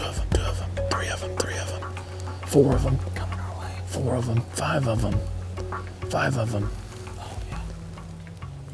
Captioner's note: whispering